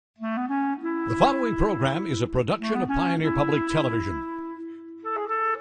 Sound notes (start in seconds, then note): 1.2 voiceover